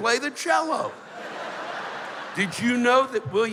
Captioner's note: laughter